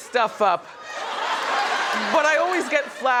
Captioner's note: audience laughs